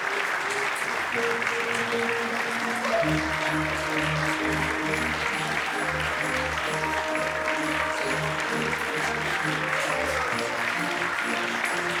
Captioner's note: music and applause - bows